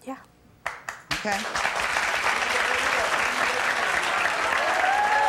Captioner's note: audience applauding